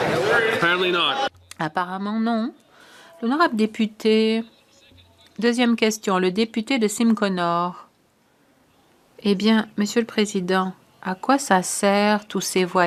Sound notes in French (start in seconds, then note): 2.8 voix de l'interprète